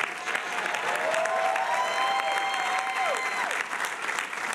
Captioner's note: audience cheering